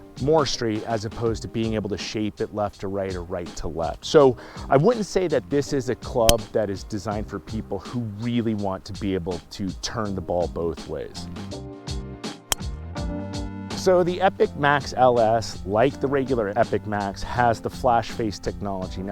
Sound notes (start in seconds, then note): 12.5 club striking ball